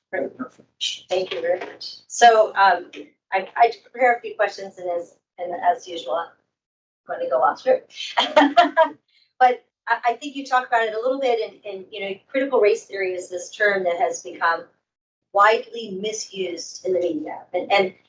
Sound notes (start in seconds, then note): 8.1 laughs